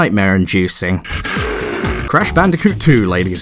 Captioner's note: roars of the damned